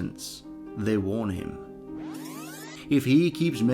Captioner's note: fast Forward Tape Sound